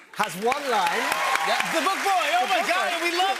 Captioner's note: cheers and applause